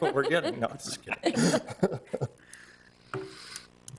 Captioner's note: laughing